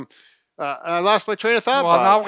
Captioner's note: laughing